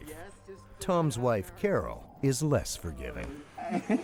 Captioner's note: voiceover